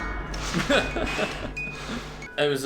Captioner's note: laughs